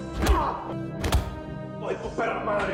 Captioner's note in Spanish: Golpes